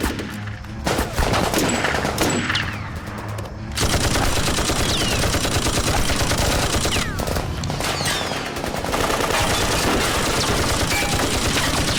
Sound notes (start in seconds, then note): 0.1 gunshots; 3.7 rapid gunfire